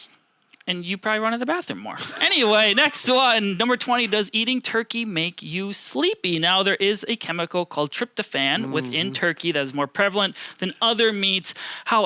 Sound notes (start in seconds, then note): 2.0 laughing